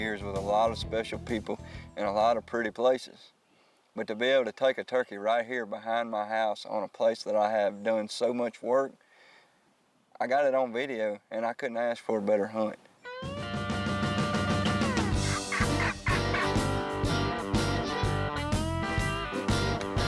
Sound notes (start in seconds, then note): 13.3 upbeat music; 13.9 turkey calling; 16.9 upbeat music